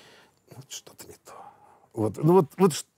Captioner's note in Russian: тихо